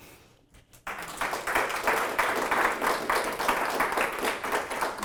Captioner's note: applause